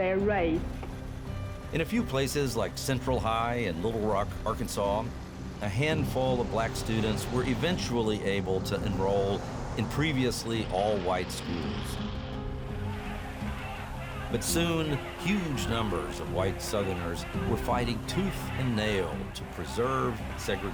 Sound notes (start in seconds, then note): 13.7 shouting